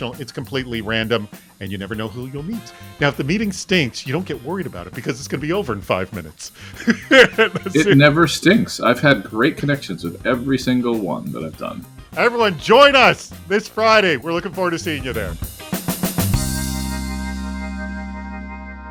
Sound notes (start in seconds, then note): 6.6 laughing; 16.2 upbeat music